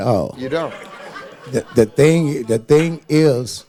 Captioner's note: audience laughing